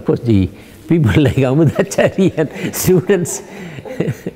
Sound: laughs

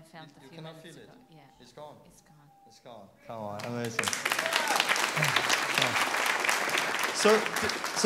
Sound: clapping

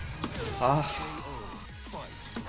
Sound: rage

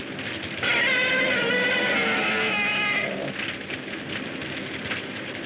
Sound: Gammera screeches

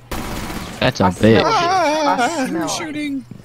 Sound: soft, scared screaming

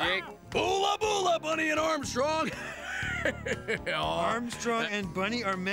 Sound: laughs

